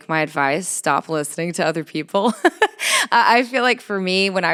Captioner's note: chuckles